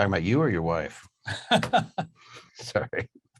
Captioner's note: laughing